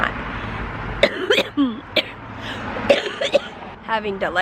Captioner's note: coughing